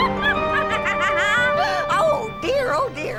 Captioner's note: laughing